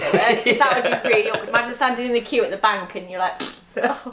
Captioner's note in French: bruit de pet